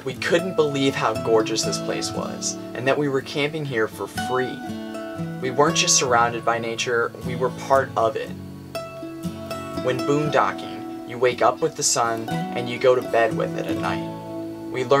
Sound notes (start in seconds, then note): none